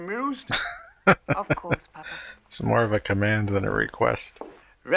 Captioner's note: laughing